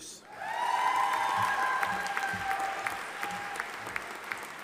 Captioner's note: audience applauding